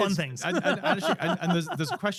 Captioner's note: laughs